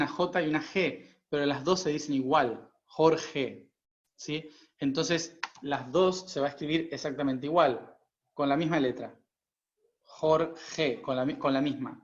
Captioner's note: in spanish